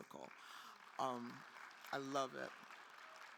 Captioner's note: attendees applauding